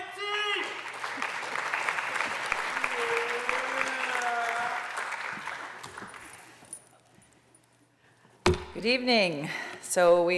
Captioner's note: applause